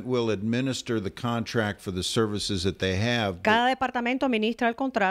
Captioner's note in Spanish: Hablando ingl\s